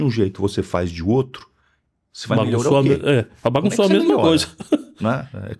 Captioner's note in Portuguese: risadas